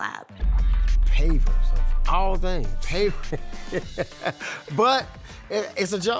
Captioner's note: laughs